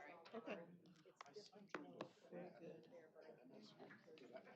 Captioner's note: indistinct chatter